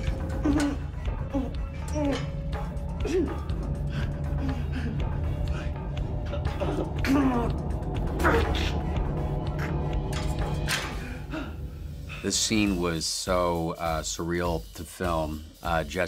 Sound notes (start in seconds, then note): 1.2 grunts